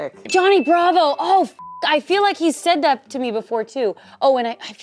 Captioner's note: beep